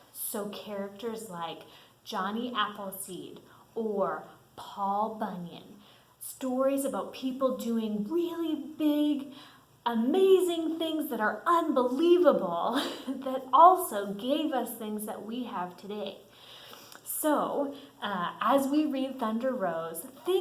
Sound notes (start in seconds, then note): 12.7 chuckles